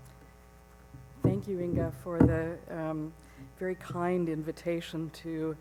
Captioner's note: voiceover